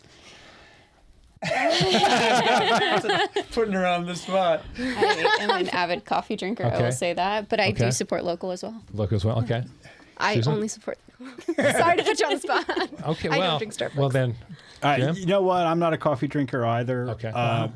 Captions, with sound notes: (laughing) Putting her on the spot. I am an avid coffee drinker, I will say that. But I do support local as well. Local as well, okay. I only support local. Sorry to put you on the spot. I don't drink Starbucks. You know what, I'm not a coffee drinker either.